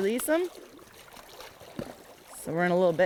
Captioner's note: water splashing